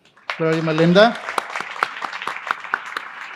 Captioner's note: applause